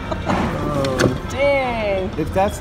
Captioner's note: laughs